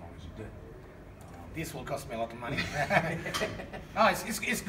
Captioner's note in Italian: ridendo